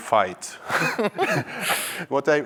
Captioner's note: chuckles